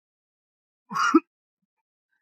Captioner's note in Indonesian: batuk